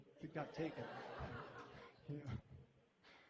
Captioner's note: laughter